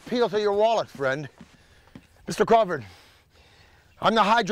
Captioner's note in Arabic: none